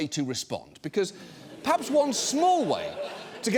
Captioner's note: audience laughs